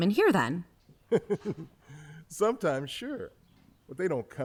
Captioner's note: chuckling